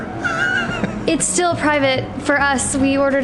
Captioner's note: laughs